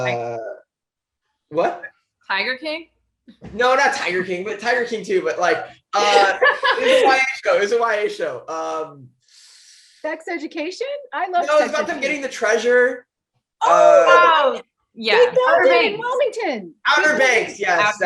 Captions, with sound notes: What? - "Tiger King?" - No, not "Tiger King." But, "Tiger King" too, but. It was a YA show. - "Sex Education," I loved "Sex Education." - You know, with them getting the treasure. (panelists shout) - "Outer Banks" - "Outer Banks," yes!